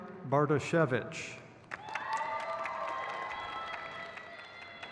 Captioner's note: crowd cheers